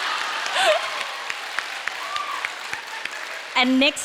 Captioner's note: audience laughing; audience applauding